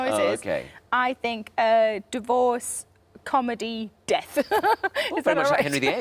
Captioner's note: laughs